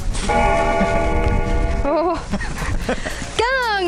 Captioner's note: bell ringing